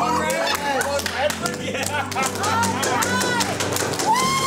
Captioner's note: clapping and cheering